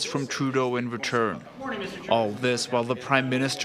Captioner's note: speaking French